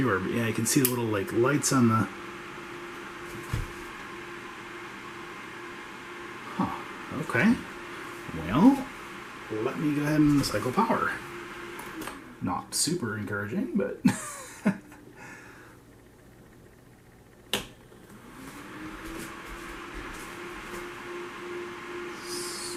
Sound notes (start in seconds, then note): 14.0 chuckles